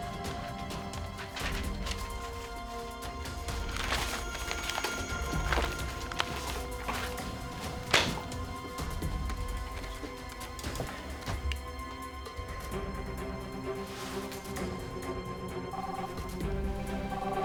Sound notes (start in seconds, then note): 15.7 line ringing; 15.7 phone ringing